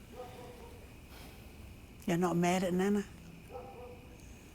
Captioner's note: sighs softly